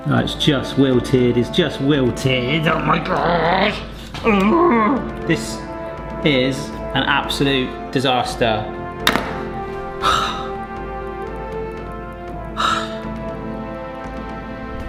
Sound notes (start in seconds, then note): 2.6 infuriated groaning; 10.0 sighs dispiritedly; 11.9 despondent music